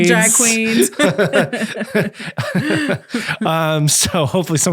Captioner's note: laughing